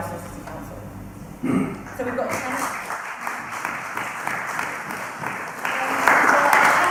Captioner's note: clapping